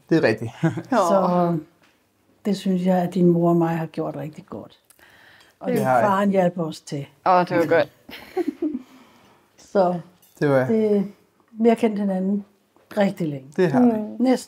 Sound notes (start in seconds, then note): 8.2 laughing